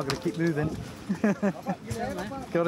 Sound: laughter

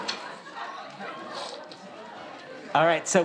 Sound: audience chatters

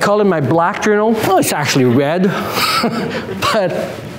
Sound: chuckles

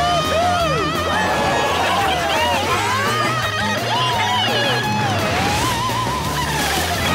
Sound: cheering

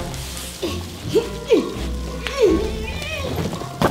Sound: grunts

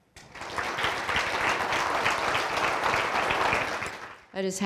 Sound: audience applauds

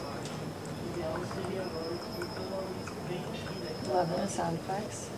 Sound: making water noise

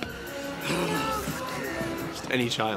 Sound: growls

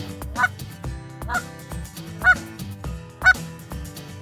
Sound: horn squawking

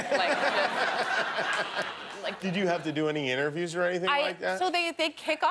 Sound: laughter

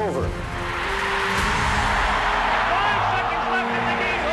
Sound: cheering

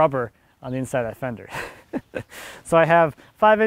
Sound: laughs

